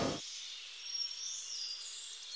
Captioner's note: birds chirping